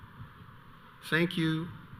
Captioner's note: none